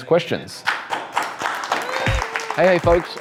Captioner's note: handclaps